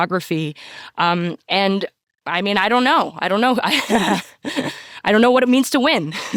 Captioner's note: chuckles